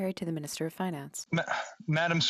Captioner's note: speaking French